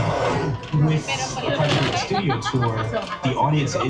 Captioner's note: dinosaurs growling